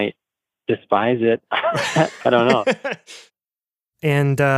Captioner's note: laughs